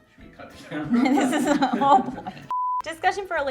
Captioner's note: both mumbling